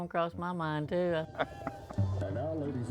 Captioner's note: laughs